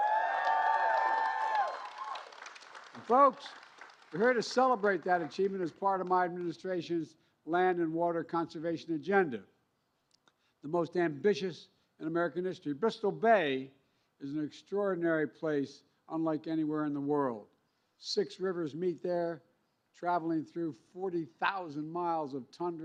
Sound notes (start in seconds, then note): 4.7 cheers and applause